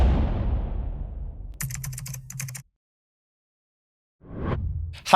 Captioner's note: keyboard keys tapping